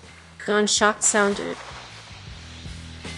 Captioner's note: gunshot sound